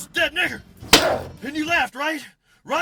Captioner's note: thud